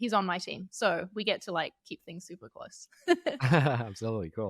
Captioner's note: laughing